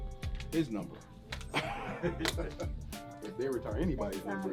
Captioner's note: laughing